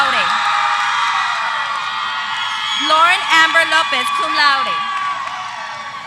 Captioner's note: applause